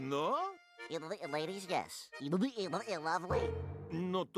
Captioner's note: stuttering